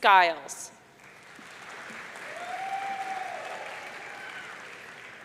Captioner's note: audience cheering